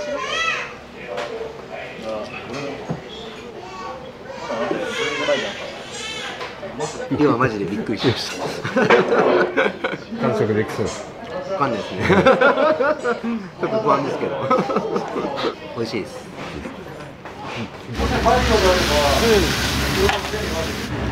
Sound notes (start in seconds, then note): 11.9 laughs